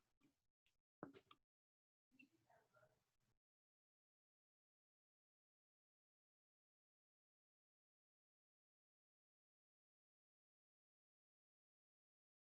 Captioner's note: silence